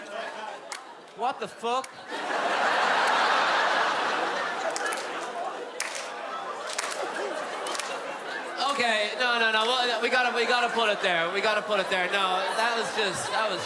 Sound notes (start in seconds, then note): 1.7 crowd laughing, a few still clappin